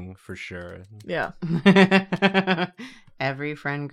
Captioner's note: laughs